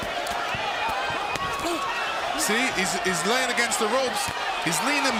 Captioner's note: crowd reacts